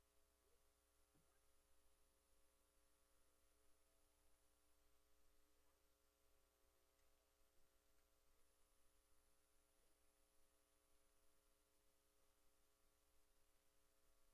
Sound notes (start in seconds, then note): none